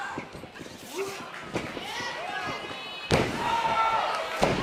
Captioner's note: crowd chatter